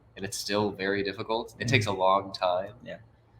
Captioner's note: sighs